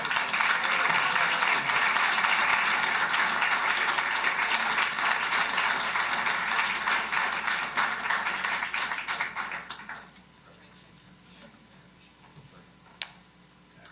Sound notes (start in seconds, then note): 3.8 applause